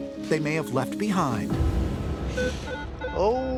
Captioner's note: beeping